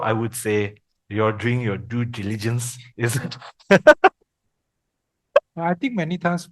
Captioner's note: laughters